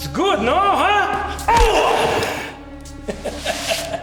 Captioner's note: Brown groaning; kick thudding; Siegmund laughing